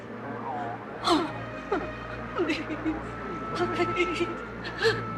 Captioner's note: terisak; menangis